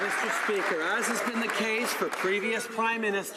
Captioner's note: some Applause